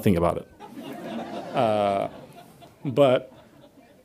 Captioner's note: audience laughs